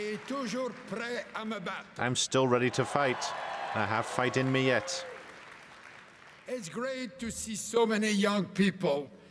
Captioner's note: cheering and applause